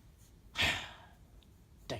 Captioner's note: deep sigh